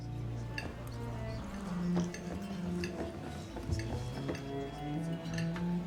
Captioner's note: gentle music; cutlery clanking